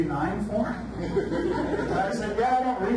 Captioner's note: audience laughs